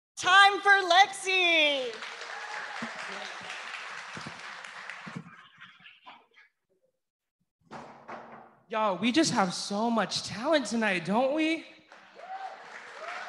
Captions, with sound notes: >> Time for Lexi. >> [APPLAUSE] >> You all, we just have so much talent tonight, don't we?